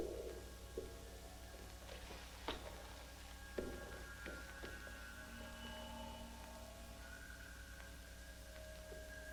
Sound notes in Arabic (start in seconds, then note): 1.7 صوت خطوات قوية